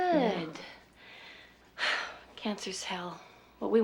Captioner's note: sighs